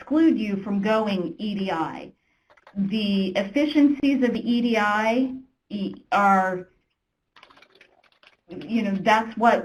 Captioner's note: typing